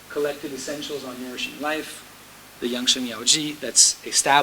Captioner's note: speaking foreign language